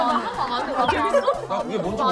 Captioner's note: chatting